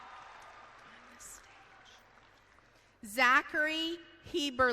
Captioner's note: whispers